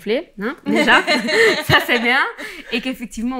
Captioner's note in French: rires